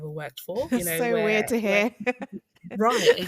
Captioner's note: laughs